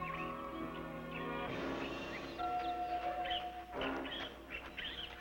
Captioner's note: birds chirping